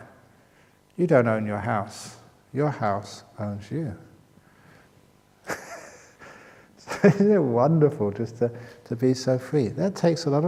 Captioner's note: chuckle